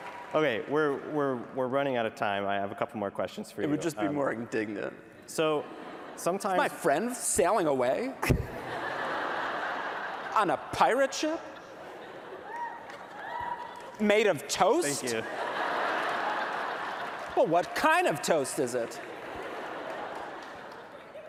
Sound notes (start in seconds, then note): 14.9 laughter